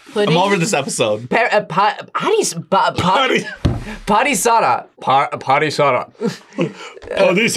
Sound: in deep voice

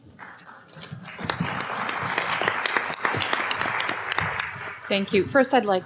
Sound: applause

